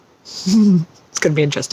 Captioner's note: chuckles